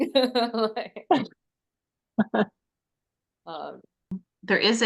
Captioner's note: laughing